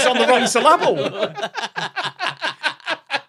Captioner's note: group belly laughs